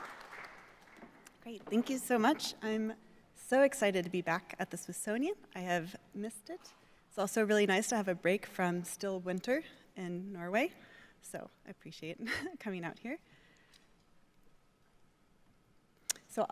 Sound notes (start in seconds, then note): 0.0 audience applauding